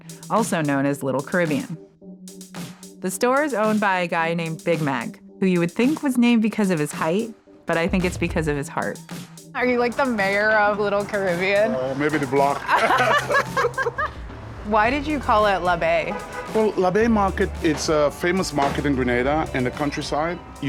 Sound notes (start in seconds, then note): 12.5 both laugh